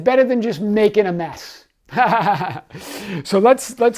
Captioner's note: laughs